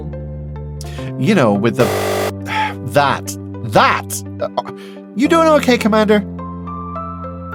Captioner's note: buzzer